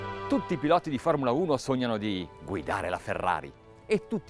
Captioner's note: speaking in Italian